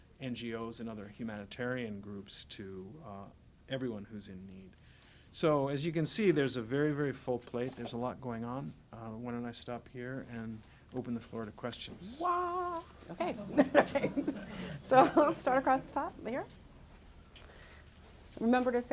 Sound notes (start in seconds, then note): 13.4 laughter